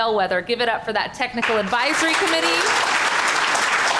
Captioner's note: applause